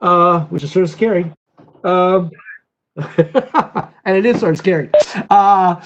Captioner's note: laughter